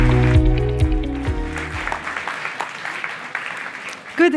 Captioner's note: applause